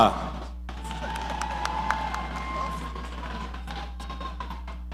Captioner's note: audience applauding